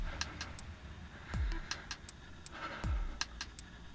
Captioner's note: heavy breathing